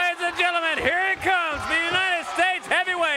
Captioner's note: crowd cheering